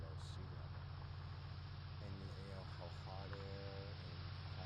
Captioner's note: water spraying